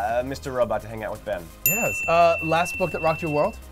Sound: dinging

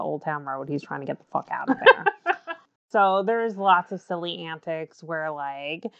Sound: laughs

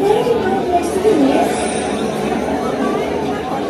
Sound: robot noise

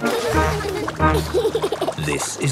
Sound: giggles

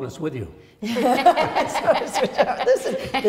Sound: all laugh

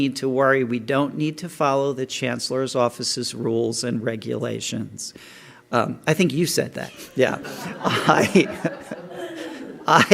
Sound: laughter

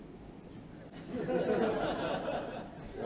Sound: laughter

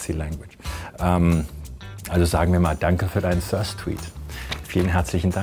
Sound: speaking in German

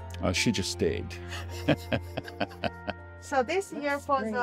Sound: laughs

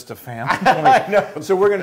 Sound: laugh

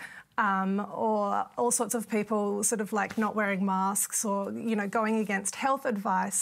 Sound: none

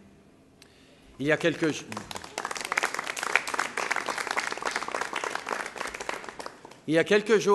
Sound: applause

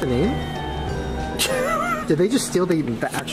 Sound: laughs

